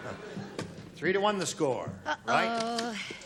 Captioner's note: chuckles